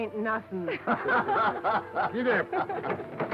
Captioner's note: all laughing